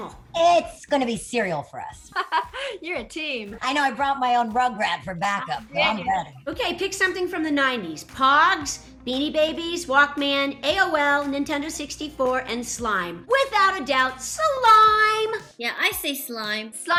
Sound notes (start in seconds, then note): 2.1 laughter